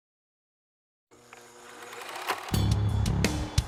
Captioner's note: projector whirring; rock music plays